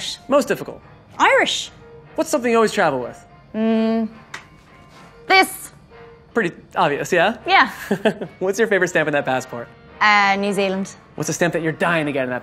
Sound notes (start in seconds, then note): 7.8 laughs